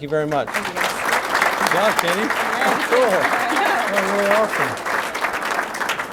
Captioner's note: applause